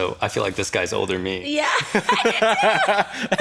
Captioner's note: laughs